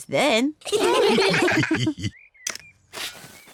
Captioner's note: all laugh